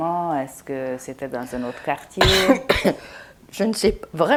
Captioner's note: coughing